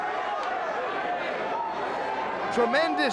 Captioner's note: audience cheers